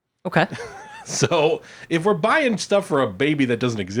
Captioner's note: laughs